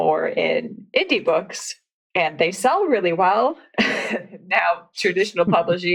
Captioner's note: laughs